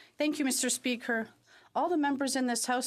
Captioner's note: speaking French